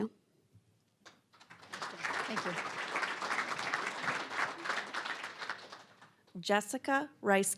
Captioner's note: applause